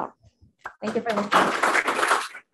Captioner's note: audience clapping